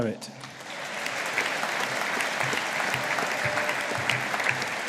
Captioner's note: audience applauding